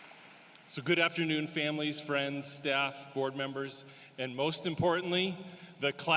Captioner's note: applause